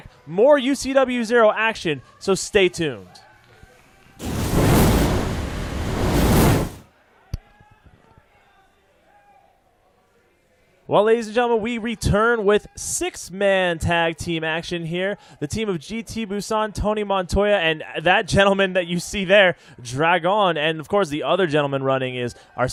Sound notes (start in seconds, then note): 4.2 sizzling fire sound